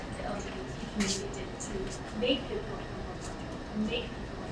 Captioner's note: speaking away from mic